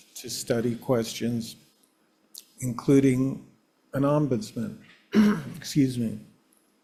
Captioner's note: coughs